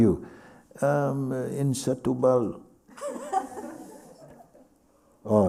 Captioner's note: laughter